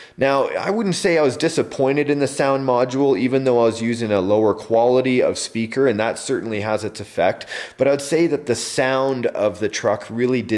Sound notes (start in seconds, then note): none